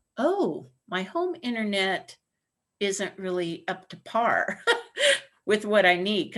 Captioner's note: laughter